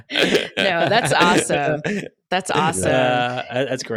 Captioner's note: laughs